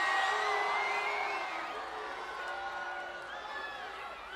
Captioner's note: crowd booing